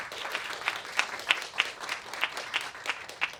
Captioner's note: applause